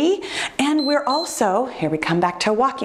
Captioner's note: timer beeps